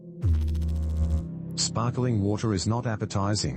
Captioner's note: electrical noise